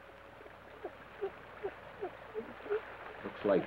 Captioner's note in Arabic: صندوق الروك يصدر صوت صرير إيقاعي